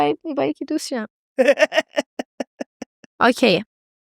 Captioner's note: laughs